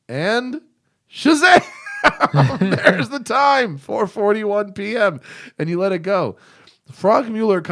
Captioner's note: laughter